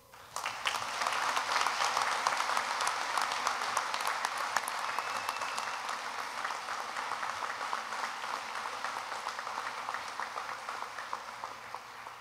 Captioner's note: applause